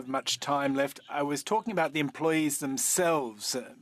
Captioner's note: speaking French